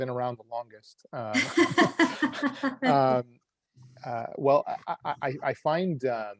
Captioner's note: laugh